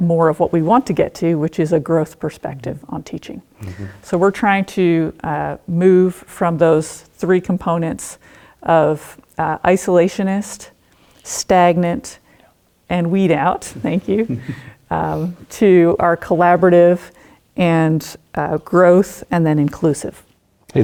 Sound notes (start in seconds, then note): 14.1 laughing